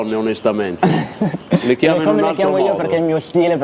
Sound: laughs

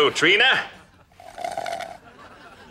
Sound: slurping

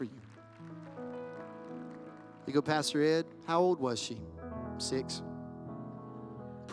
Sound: applause

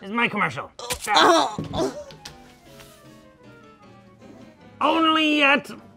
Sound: knife stabs; groans

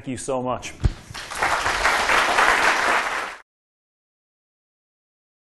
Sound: applause

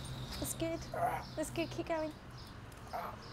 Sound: grunt

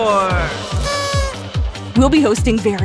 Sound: party horn blares excitedly

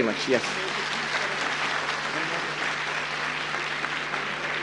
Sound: applause

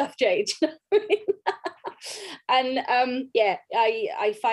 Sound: both laugh

